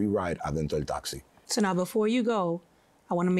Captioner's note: speaking foreign language